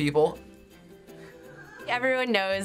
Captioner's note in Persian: خندیدن